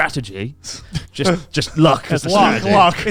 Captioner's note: laughs